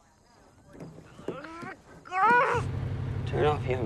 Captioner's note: grunts